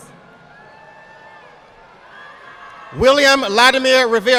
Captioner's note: audience applauding